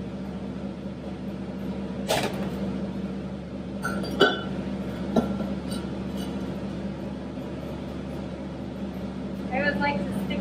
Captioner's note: shuffling of bucket and metal